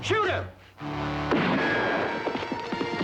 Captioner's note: gunfire